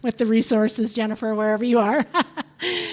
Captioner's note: laughs